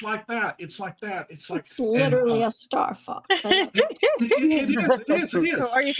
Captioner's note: cast members laughing